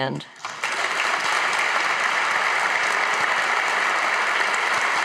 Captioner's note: audience clapping